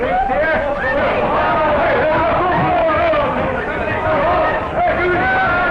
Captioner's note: shouting